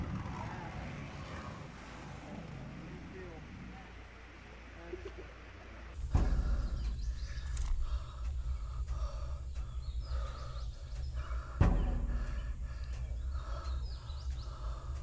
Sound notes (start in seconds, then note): 6.0 slow pulsing drum rhythm; 10.0 heavy breathing from behind camera